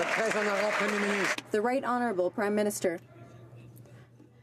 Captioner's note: some Applause